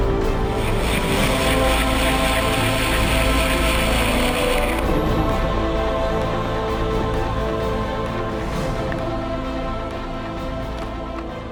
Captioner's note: machine grinding ice